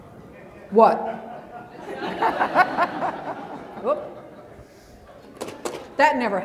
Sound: laughter

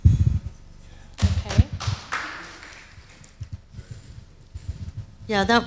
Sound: audience applauds

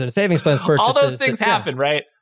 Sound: laugh

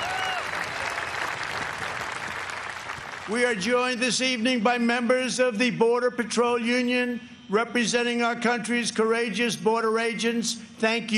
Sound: cheers and applause

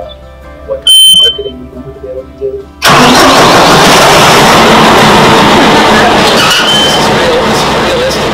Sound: tractor noises

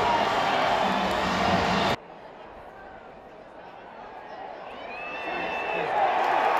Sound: crowd noise; cheering

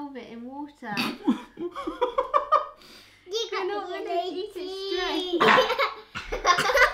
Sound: family laughing

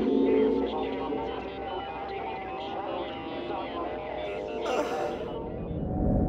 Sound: distorted sounds over the radio

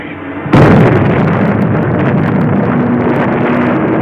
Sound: explosions roaring

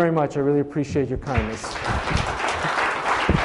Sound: applause

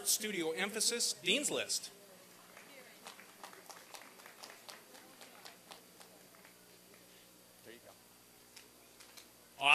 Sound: applause and cheering

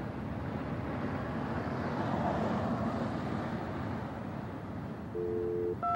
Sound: cars on the road; dial tone; touch tone

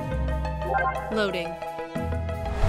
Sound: computer chiming

